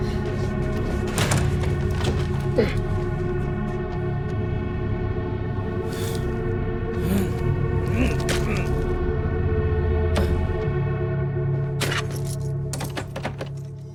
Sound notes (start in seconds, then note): 0.8 door thuds; 2.5 Lennox grunts; 6.9 Gino grunts; 11.8 keys clinking